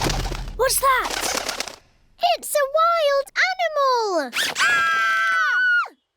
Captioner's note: fluttering; all screaming